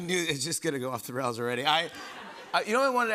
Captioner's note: laughter